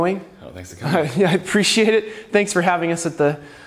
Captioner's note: laughs